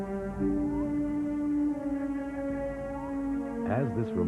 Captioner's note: bird Calling